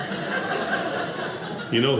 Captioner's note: audience laughing